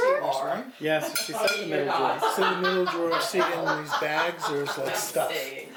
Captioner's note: my mom laughing